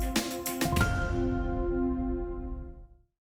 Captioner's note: logo chiming